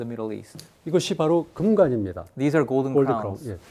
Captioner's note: speaking in Korean